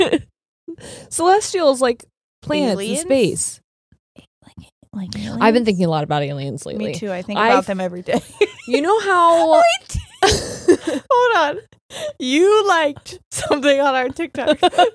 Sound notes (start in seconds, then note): 8.2 laughs; 14.4 both laughing